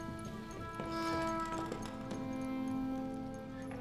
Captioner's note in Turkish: Kapı açılma sesi